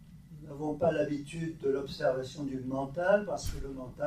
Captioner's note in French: none